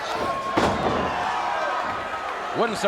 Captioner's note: body thuds